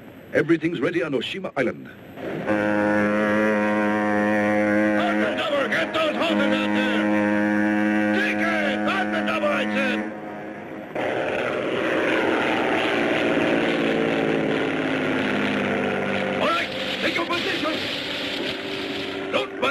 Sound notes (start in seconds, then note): 2.4 boat horn blares; 11.2 plane roaring